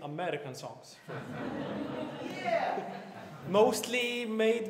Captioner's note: laughter